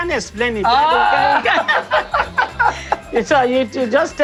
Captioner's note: laughter